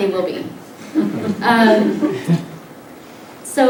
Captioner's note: light laughter